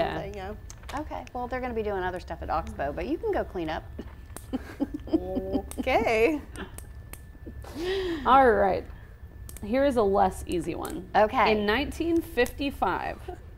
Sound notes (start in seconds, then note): 4.4 laughs